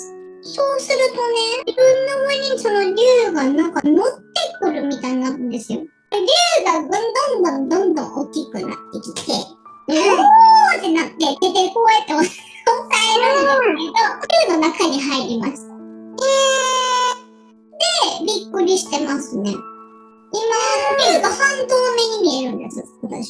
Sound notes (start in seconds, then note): 13.6 laughs